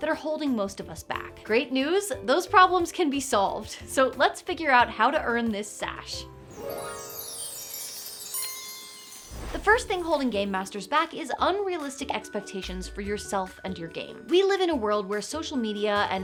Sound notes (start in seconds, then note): 6.5 chimes; 9.2 title whooshes